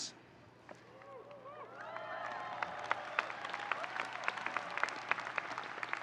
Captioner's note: audience cheering and applauding